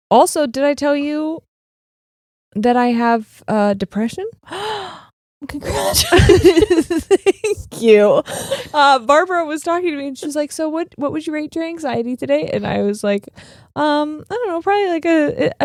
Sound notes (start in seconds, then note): 4.4 gasping; 5.7 both laughing